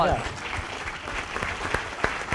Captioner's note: applause